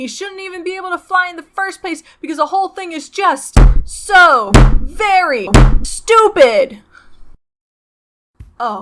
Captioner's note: bang